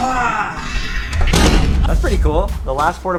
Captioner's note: crash